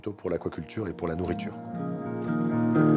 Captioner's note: speaking in foreign language; gentle music